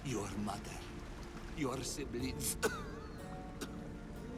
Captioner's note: cough